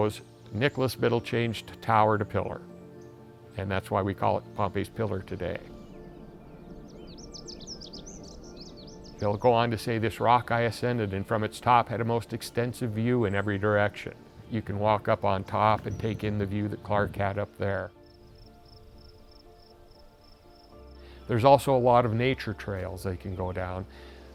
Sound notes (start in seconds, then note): 7.0 birds chirping